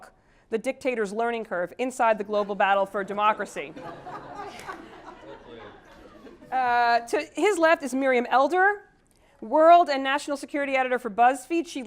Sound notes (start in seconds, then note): 3.7 laugh